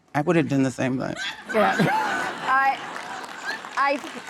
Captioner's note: audience laughing